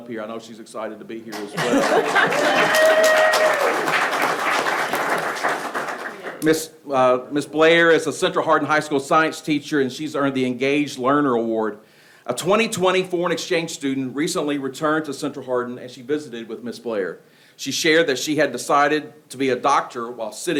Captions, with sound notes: Come on up here. I know she's excited to be here as well. (person laughs) (people clapping) (people cheering) Ms. Blair is a Central Hardin High School science teacher and she's earned the Engaged Learner Award. A 2020 foreign exchange student recently returned to Central Hardin and she visited with Ms. Blair. She shared that she had decided to be a doctor